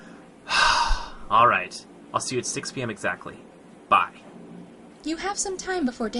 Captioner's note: exasperated and Impatient Sigh, obviously skipping the question